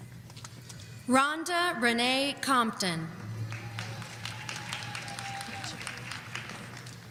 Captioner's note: audience applauding